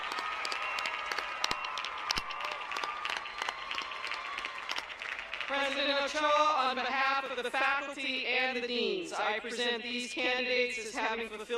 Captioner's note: applause